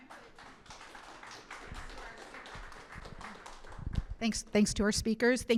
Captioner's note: audience applauding